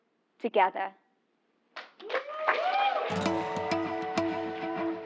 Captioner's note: applause